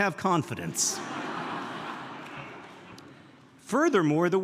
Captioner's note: audience laughing